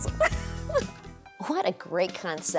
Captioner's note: laughs